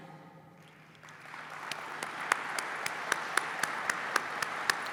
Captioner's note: applause